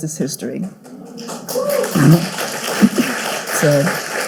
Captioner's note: audience cheering